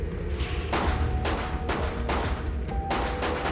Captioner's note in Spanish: Disparos